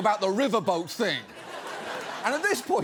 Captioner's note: audience laughs